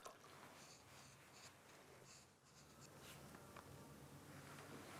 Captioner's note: scribbling